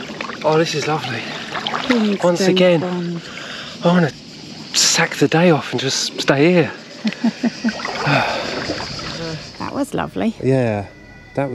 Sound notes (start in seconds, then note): 7.0 laughter